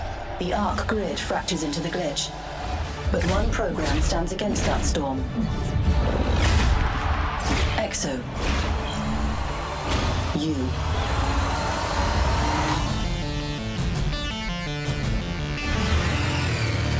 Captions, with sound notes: The Arq Grid fractures into the glitch. but one program stands against that storm. [crowd screams] EXO. You. [electronic music playing]